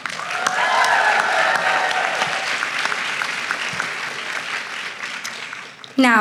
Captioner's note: applause